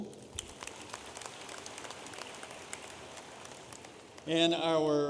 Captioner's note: audience applauding